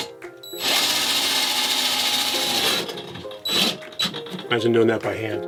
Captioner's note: drill whirs